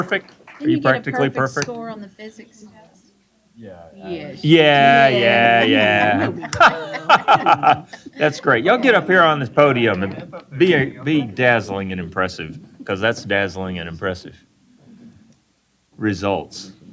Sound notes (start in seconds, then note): 6.2 laughing